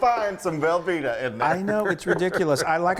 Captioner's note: laughter